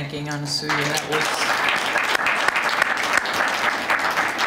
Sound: applause

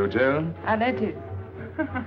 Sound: laughing

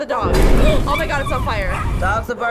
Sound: dogs whining in pain

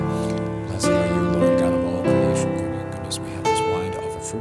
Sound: prays quietly

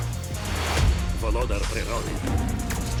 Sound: growls

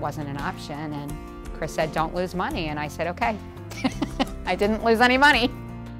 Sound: laughing

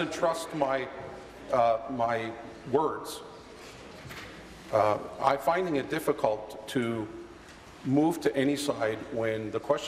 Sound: conversation din

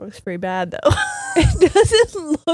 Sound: laughing

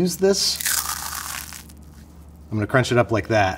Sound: corn flakes crunching

